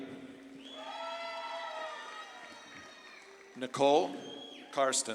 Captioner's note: audience claps and cheers